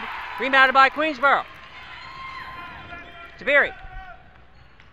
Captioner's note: crowd cheers